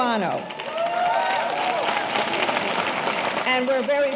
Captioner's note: audience applauding; audience cheering